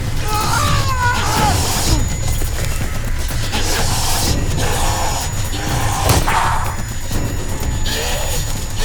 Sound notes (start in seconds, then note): 0.0 screaming; 5.8 snarling; 6.0 gunshot